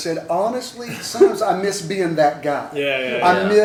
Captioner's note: laughter